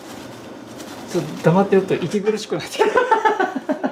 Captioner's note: laughs